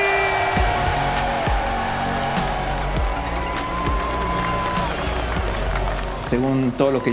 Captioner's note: crowd cheering